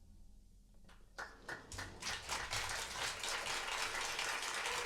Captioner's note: applause